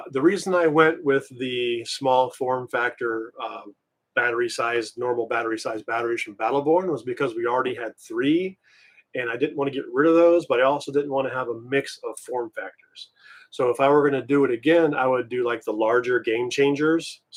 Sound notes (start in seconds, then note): none